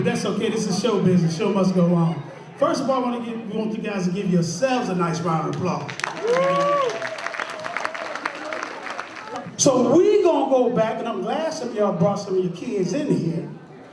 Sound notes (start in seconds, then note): 5.5 applause